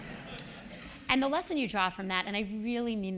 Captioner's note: laugh